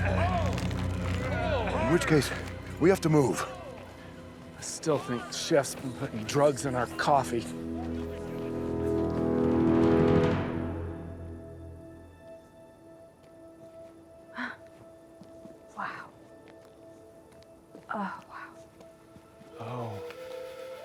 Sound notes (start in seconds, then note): 8.4 dramatic music; 14.6 gasps